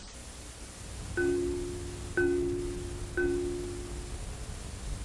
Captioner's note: computer chiming